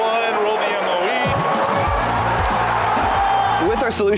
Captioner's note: crowd cheering